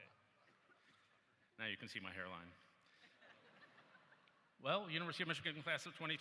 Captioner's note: laughter